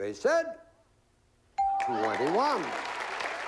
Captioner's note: applause